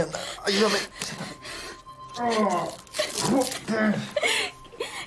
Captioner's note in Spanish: se queja